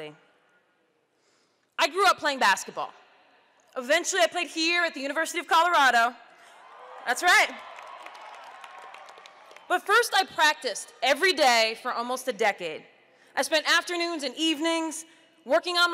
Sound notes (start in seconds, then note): 6.6 audience cheers